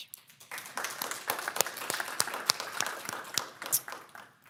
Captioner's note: audience applauds